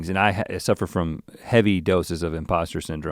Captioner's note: none